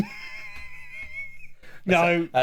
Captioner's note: laughing